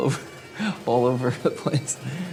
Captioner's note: laughs